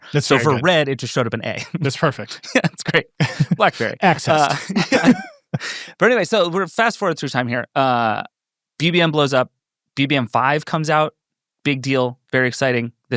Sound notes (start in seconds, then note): 2.1 laughs; 4.9 people laughing